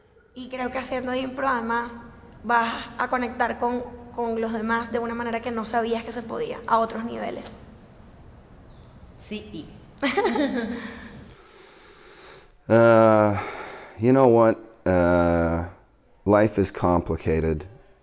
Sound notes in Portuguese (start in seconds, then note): 10.0 risos